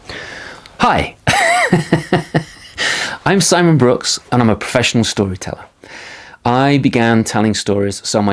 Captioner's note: laughing